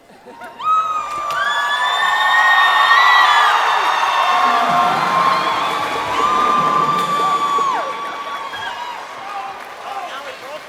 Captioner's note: cheers and applause